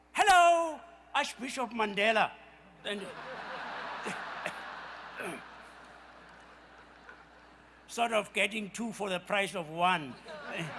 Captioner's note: laughter